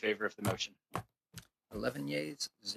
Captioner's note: speaking French